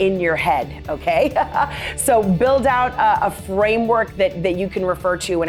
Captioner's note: laughter